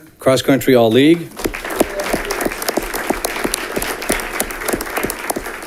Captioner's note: audience clapping